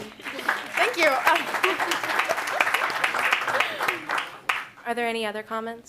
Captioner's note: applause